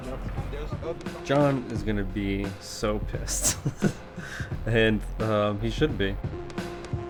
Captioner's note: chuckles